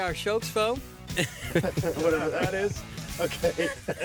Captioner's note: laughs